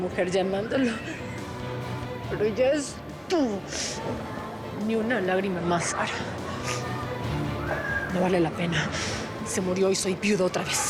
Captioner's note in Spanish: sollozos